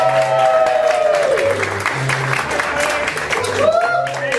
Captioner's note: audience cheering